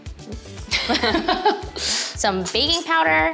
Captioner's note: laughing